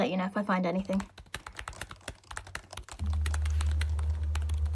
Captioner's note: keyboard clacking